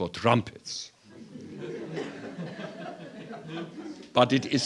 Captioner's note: laughter